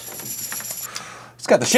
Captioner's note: exhales